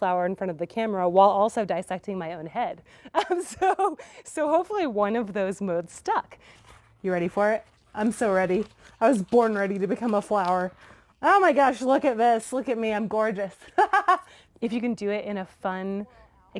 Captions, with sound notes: in front of the camera while also dissecting my own head. So hopefully one of those modes stack. You ready for it? I'm so ready. I was born ready to become a flower. Oh my gosh. Look at this. Look at me. I'm gorgeous. (laughs) If you can do it in a fun